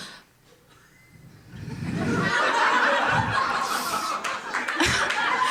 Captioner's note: Risas